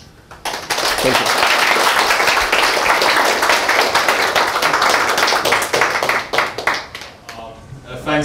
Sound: applause

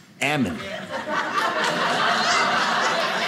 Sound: audience laughing

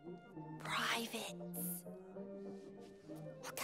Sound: whispering

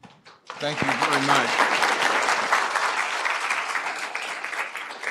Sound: applause

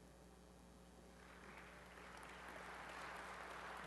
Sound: applause

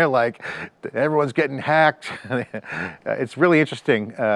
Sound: laughs

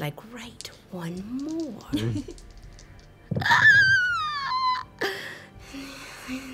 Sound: squeaks

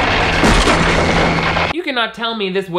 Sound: everyone screaming; whale crashing

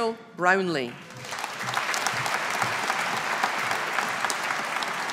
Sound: audience applauding

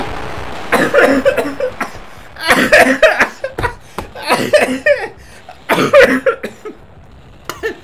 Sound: coughing; coughing while laughing

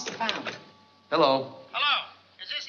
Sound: on phone

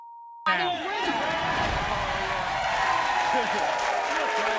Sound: audience cheers

